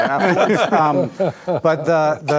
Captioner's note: group laughing